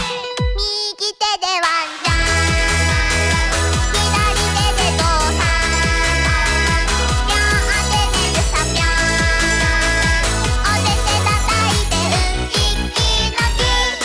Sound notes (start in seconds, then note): 5.3 prrumph-prrumph-prru-prrumph!